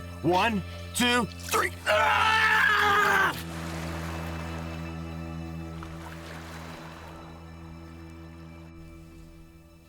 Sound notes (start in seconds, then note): 1.8 Grant screams; 2.8 water splashing